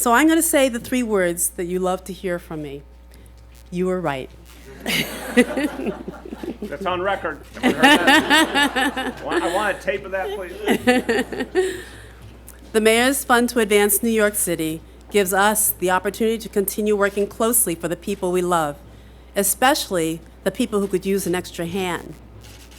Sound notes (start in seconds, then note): 4.7 laughter